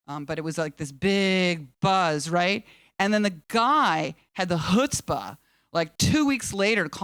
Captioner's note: none